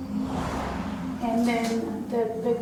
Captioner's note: car whooshes